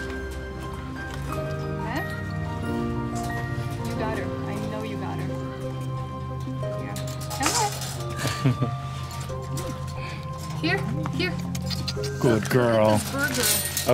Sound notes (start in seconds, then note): 8.1 laughter